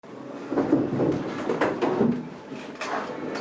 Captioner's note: chairs scraping